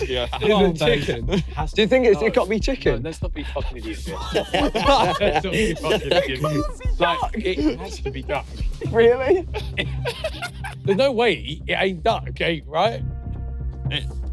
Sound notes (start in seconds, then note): 0.0 laughing; 5.1 everyone laughing